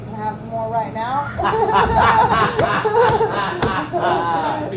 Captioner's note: everyone's laughing; laughing